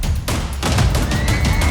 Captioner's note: shouting